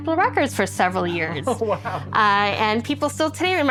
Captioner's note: laughs